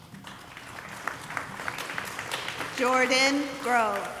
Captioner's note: audience applauding